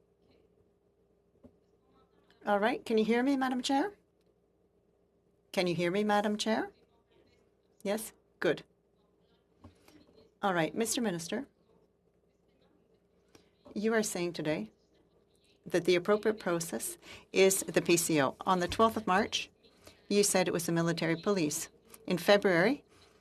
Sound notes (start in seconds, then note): 17.5 speaking french